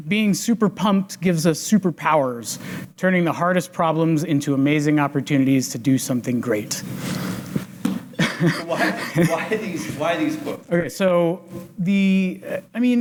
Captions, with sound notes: "Being super pumped gives us super powers, "turning the hardest problems into amazing opportunities "to do something great." (laughs) - Why these quotes? - OK, so the,